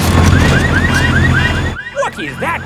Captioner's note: car alarms blaring